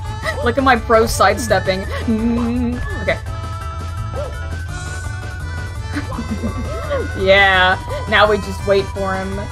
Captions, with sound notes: Look at my pro side-stepping. [PANICKED HUMMING] Okay. [more giddy laughter] Yeah! Now we just wait for him.